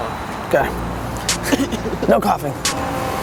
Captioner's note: chuckling